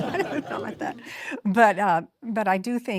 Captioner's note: audience laughing